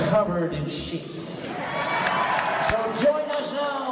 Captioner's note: audience cheers